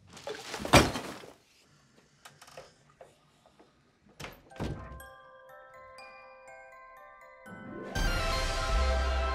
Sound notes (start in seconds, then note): 0.1 trash rattles; 5.5 ominous music